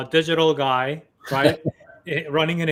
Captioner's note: laughs